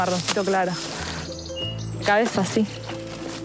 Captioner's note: speaking In Foreign Language